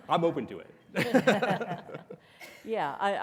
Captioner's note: laugh softly